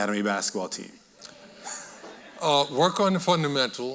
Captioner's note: audience laughing